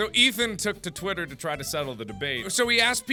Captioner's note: none